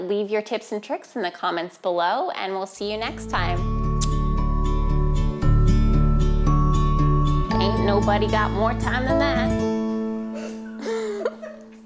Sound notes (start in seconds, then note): 4.0 lips smack; 4.7 melodic, upbeat instrumental music; 10.4 laughs